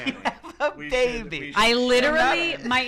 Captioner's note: laughs